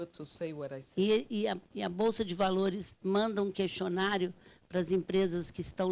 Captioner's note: speaking Portuguese